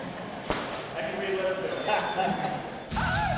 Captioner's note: camera clicking; Shawn chuckles